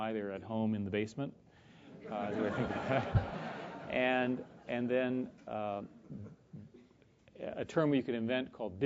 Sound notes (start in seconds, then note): 2.0 laugh